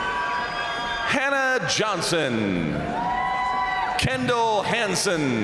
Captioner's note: crowd cheering